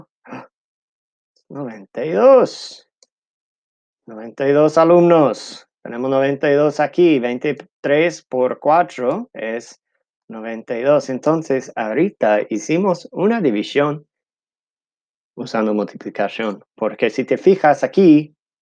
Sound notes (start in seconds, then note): 4.6 speaking in Spanish